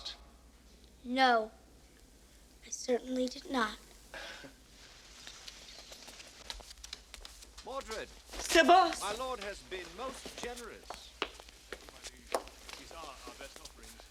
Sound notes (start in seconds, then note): 5.4 laughs